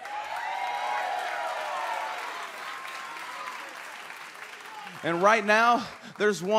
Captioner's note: crowd cheering